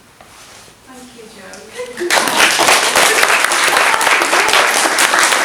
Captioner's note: audience clapping